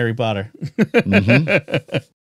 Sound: laughing

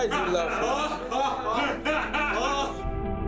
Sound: man laughing

